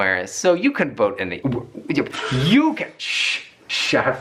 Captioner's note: laughing